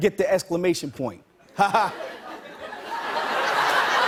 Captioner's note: laughter